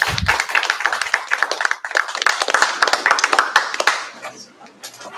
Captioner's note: applause